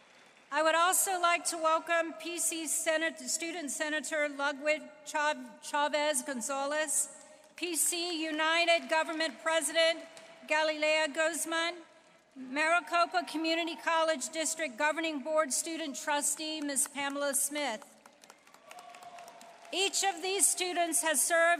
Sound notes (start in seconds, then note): 4.7 applause